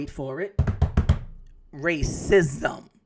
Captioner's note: hands tapping